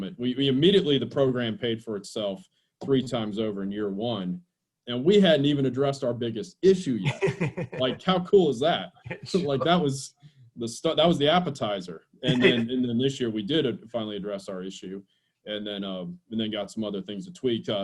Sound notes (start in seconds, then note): 7.0 laughs